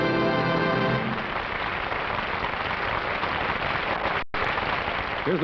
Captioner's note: applause